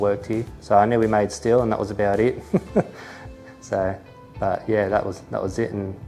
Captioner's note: chuckles